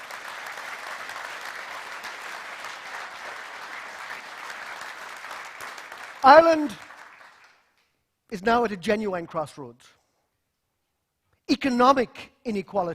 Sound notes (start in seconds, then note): 6.1 applause